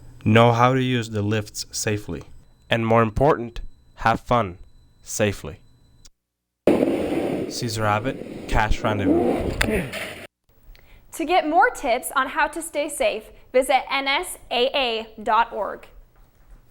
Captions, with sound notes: know how to use the lifts safely. And more important, have fun—safely! Cesar Abbott, Cache Rendezvous. [man groans] >> To get more tips on how to stay safe, visit nsaa.org.